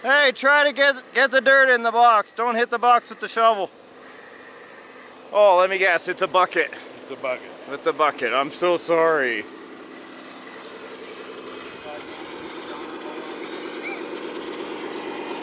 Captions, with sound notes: Hey, try to get the dirt in the blocks, don't hit the blocks with the shovel. Oh, let me guess, it's a bucket. - It's a bucket. - With the bucket, I'm so sorry. (machinery engine revs)